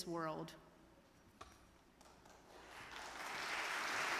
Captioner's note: audience clapping